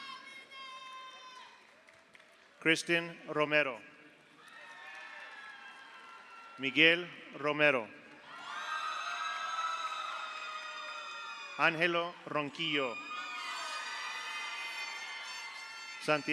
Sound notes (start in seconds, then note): 0.1 audience cheers; 1.5 audience applauds; 4.4 audience applauds; 4.4 audience cheers; 8.3 audience cheers; 9.2 audience applauds; 12.5 audience cheers; 13.1 audience applauds